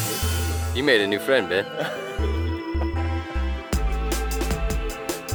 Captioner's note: laughter